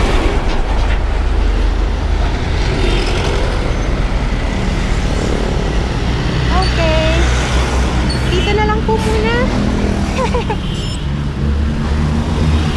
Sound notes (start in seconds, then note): 9.8 laughs